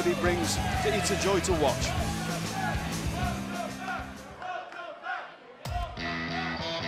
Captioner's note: crowd cheering